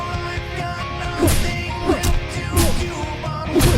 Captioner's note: metal crashing hits